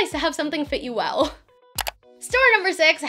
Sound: click

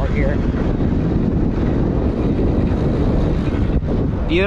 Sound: wind gushing

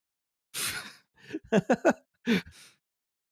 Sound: laughs

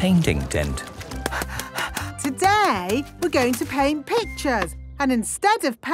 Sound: panting

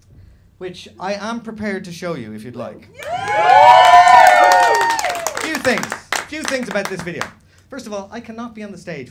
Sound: cheers

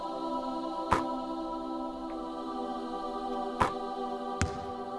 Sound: ball swishes the net

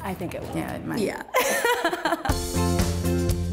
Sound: laughs

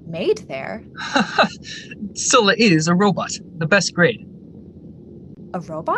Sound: laughs

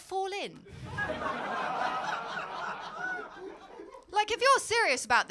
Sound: laughter

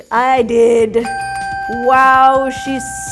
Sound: bell dings

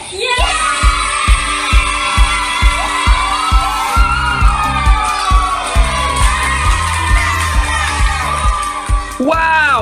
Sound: cheering and clapping!; music fades out

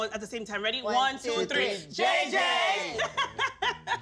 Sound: laughs

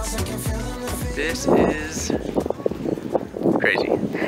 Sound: wind whooshes; laughing

